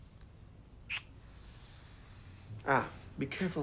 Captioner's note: lips smacking